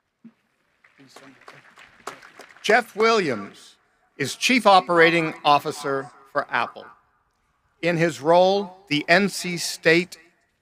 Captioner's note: applause